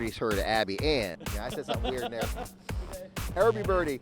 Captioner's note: man laughs